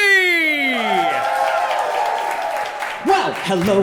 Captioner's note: audience cheering